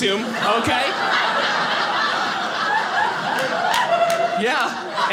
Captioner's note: audience laughing